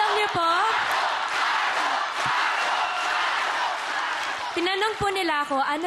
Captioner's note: crowd chanting